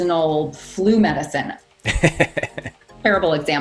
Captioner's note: laughing